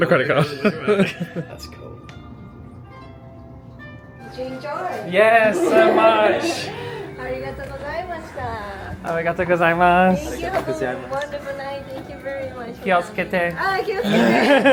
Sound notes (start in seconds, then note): 7.4 speaks Japanese; 9.0 responds in Japanese; 13.4 speaks Japanese